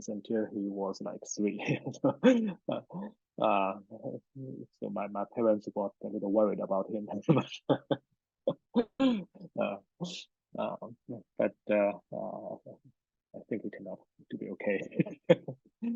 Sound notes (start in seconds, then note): 2.7 laughs; 11.5 laughs